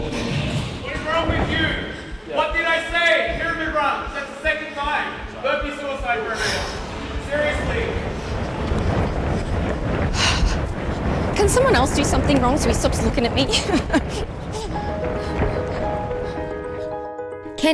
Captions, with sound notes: What is wrong with you? What did I say? Hear me wrong. That's the second time. Suicide for everyone. Seriously. - Can someone else do something wrong so he stops looking at me? (chuckles) (soft gentle music)